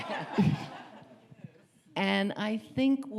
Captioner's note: audience laughing